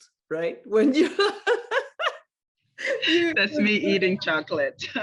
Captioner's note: laughter